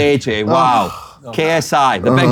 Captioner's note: KSI sighs